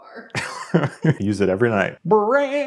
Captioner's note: laughs